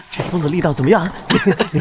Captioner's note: cough cough cough